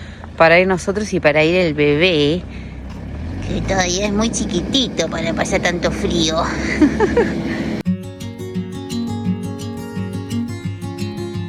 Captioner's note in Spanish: risas